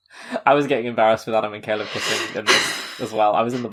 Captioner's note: laughing